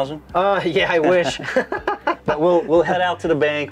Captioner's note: laughs